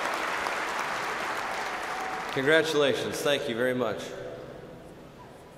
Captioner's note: cheers and applause